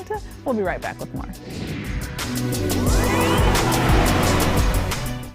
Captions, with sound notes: We'll be right back with more. (air swooshing) (upbeat music)